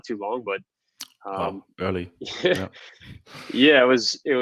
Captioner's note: laughs